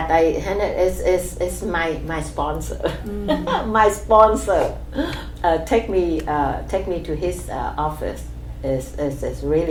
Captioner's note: laughs